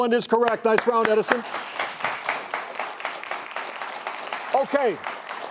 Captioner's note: audience clapping